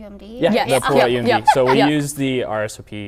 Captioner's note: laughing